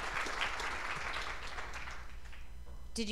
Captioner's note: applause